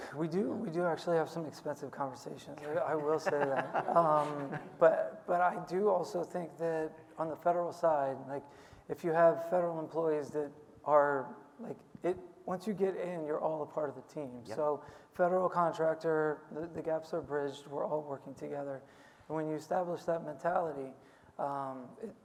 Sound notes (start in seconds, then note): 2.7 laughing